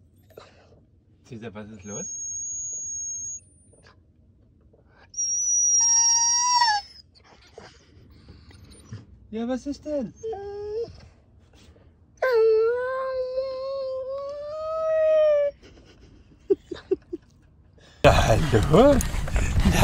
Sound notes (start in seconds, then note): 2.6 Caesar is whimpering